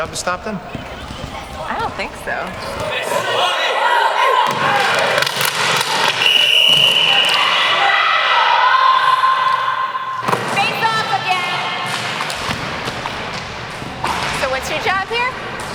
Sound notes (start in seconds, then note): 6.0 whistle blows; 6.6 shouting